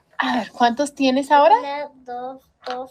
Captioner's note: teacher speaking Spanish; speaking Spanish